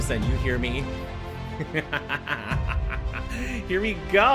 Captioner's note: hysterical laughter